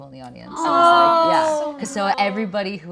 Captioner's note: group exclaiming